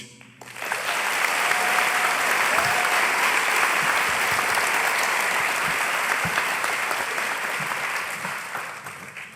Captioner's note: applause